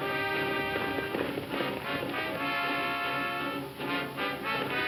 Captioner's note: hooves thumping